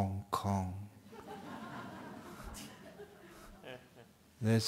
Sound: laughter

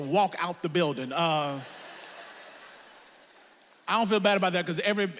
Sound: audience laughs

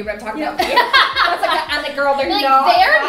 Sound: laughing

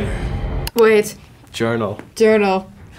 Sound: computer click

